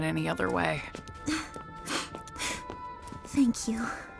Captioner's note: laughs; sniffles